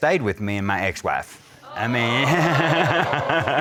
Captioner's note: crowd gasping